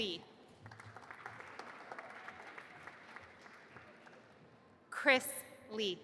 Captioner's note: audience applauding